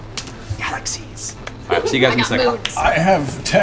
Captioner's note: whispers